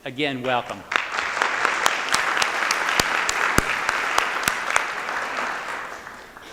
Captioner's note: applause